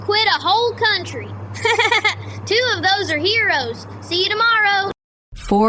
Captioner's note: laughs